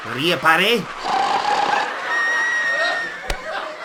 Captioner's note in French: grand ronflement